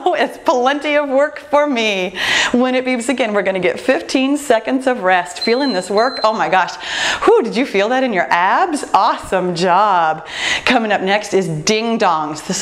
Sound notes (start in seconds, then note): 5.3 timer beeping